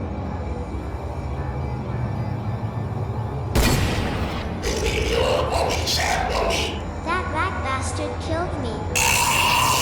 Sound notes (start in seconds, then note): 3.5 gunshot; 4.5 Demonic voices